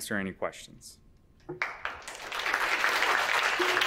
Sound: applause

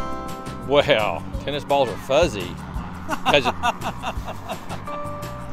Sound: laugh

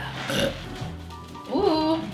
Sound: burp

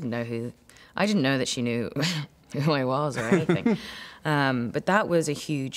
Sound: laughs

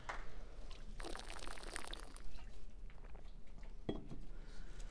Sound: sipping water

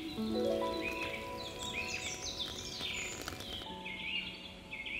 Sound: tea pours, birds chirping

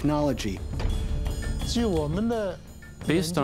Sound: man speaking in Chinese

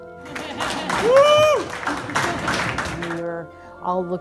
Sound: applauding and cheering

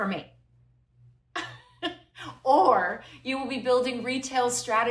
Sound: laughter

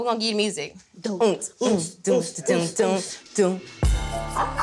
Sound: girls beat boxing

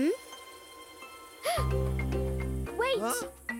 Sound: gasps

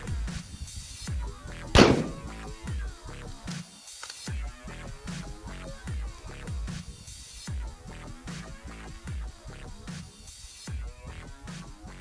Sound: gun Shots

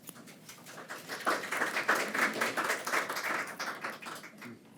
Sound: attendees applaud

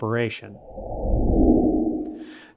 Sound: frame whooshing

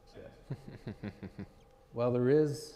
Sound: audience laughing

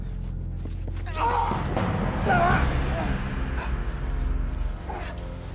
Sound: choking

